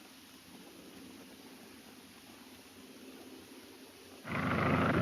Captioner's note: airplane engine roaring